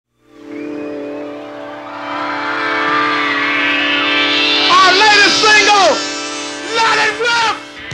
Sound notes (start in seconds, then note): 0.3 crowd cheering; 0.4 upbeat rock music